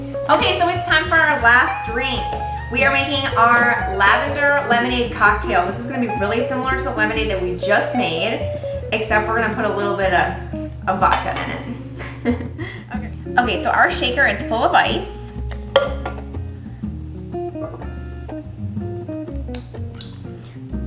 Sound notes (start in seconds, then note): 11.7 chuckles; 17.1 relaxed music continues